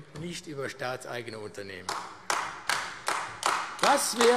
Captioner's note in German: Beifall AfD